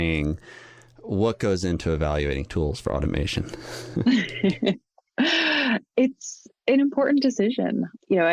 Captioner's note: chuckles